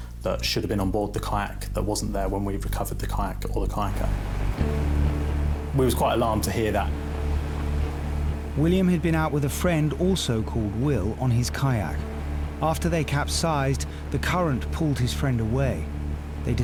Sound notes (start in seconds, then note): 4.3 lifeboat engine whirring; 4.3 suspenseful music; 7.2 lifeboat engine whirring; 7.2 suspenseful music